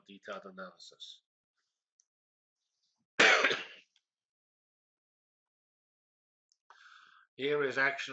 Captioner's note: pause